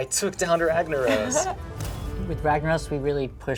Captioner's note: laughs